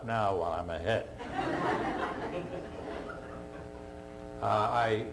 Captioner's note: laughter